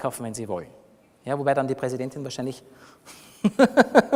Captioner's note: laughs